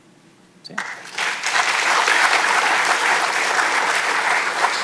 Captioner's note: audience clapping